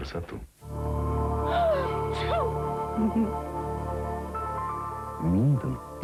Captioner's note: sneezes